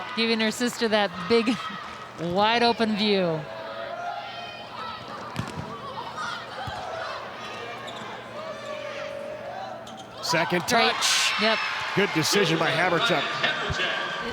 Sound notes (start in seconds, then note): 4.2 players shouting indistinctly; 5.4 ball thumping; 7.0 players shouting indistinctly